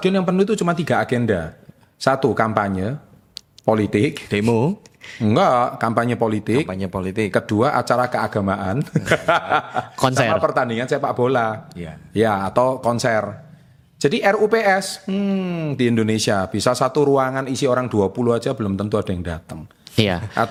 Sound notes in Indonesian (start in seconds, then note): 8.8 tertawa